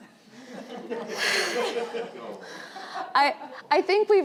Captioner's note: laughing